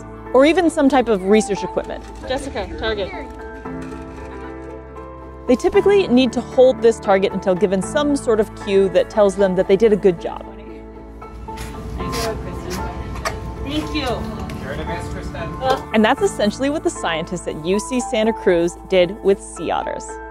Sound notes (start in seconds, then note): 2.2 background chatter; 2.2 background music; 10.6 background music; 10.6 walrus snuffling noises; 11.5 background chatter; 13.5 background music